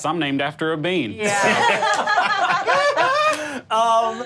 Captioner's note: group laughing